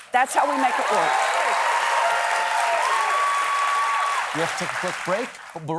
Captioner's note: applause